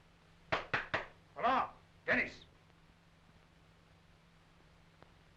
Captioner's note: knocking